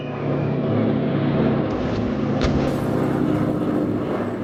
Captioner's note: bomb explosions